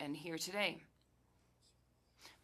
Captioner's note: speaking French